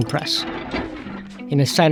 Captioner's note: printing press cranking